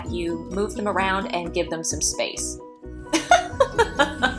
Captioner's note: laughs